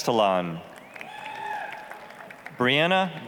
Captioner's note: applause, cheering